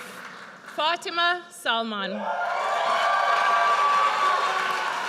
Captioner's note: audience cheers